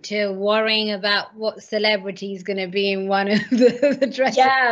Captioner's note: laughs